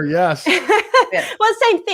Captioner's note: laughs